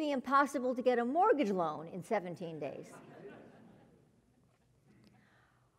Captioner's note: laugh